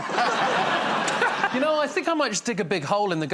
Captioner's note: laughter